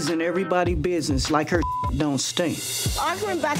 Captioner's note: beep